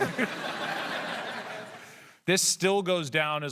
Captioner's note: laughter